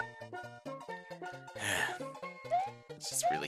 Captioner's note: sigh